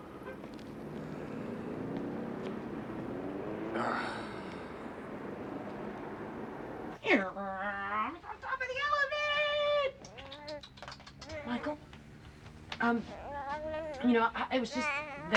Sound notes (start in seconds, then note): 3.7 sighs; 6.9 imitates helicopter